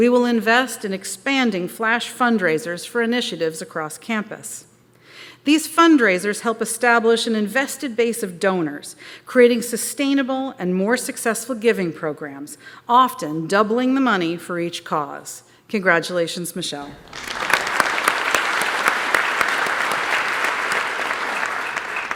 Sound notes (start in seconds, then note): 16.9 applause